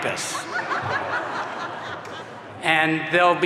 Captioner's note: audience laughing